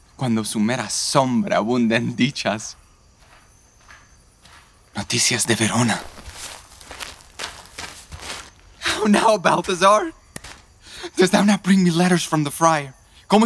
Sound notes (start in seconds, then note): 3.1 footstep approaching; 7.0 footsteps